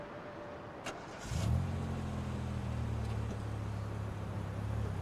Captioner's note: car engine revving